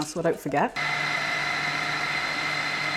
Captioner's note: food processor whirring